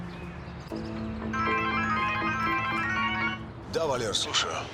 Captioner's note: phone rings